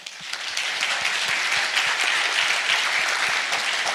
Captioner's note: audience applauds